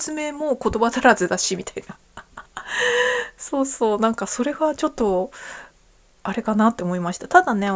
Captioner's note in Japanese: 笑い; 息をのむ音